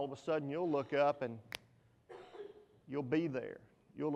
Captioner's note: fingers snap